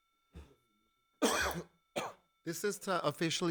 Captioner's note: coughs